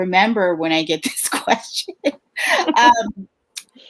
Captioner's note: laughs